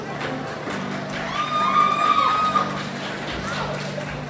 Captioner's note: crowd cheers